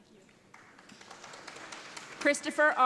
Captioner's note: audience applauding